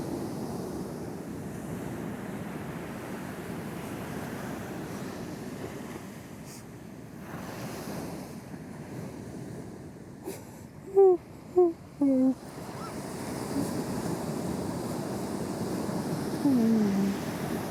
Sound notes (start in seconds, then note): 7.5 crying; 14.9 water crashing